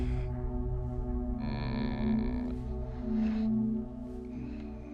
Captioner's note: murphy moans